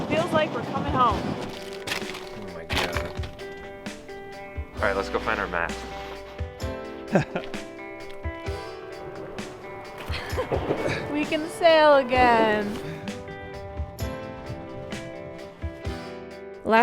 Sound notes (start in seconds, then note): 7.0 laughs; 13.4 upbeat music